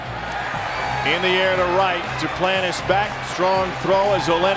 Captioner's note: voiceover